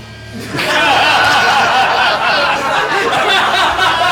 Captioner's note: laughs